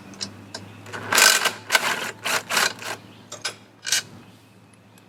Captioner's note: drill rattles